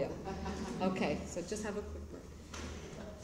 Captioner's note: laughter